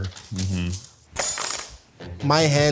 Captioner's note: metal clanks